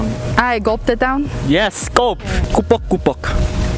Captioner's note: gulp